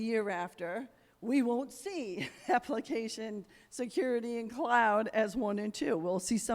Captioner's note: chuckles